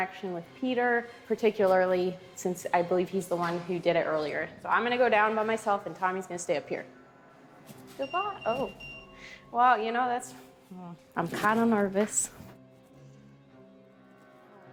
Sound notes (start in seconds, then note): 8.0 EMF beeps